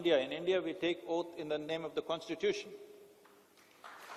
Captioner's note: applause